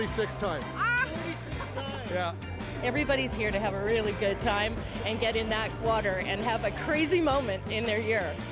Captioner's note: laughter